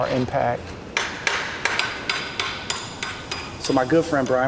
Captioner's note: hammer clangs; nails clang